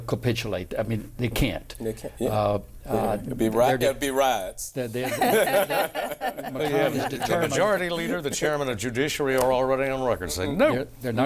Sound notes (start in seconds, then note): 5.0 laughter